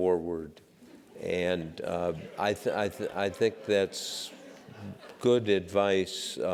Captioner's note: laugh